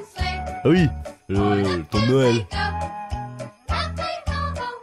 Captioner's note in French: voix de vainqueur